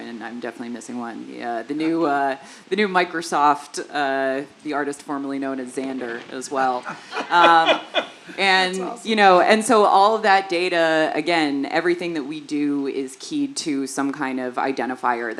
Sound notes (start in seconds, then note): 6.8 laugh